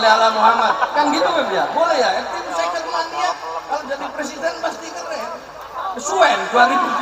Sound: laughs

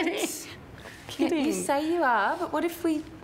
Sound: laughs

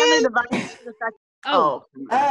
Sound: laughter

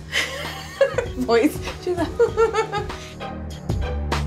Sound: laughing

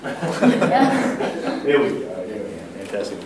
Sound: laughter

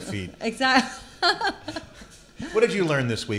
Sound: laughs

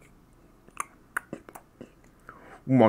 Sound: chomp chomp chomp

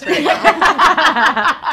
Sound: all laughing

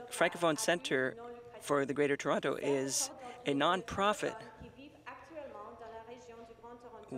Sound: speaking French

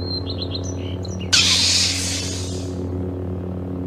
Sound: Lightsaber ignition

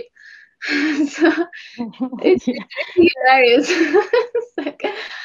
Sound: laughs

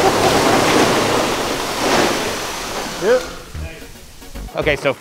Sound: laughing; mussels crashing

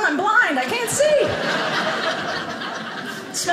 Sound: audience laughing

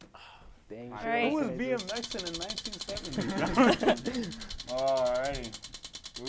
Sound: laughs

